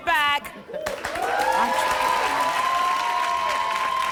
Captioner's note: applause